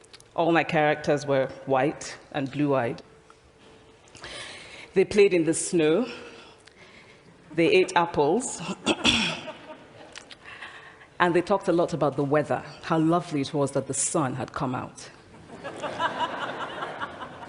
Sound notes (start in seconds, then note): 9.2 laughter; 15.4 laughter